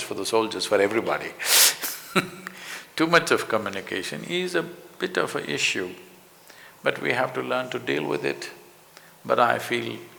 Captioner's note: laughs